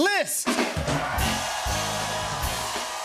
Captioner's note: cheers and applause